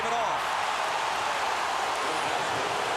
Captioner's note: crowd booing